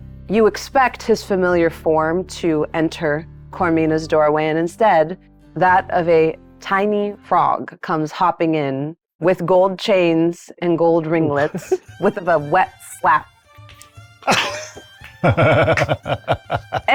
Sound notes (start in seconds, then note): 14.2 laughing; 15.0 claps